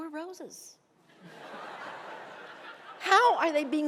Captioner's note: laughing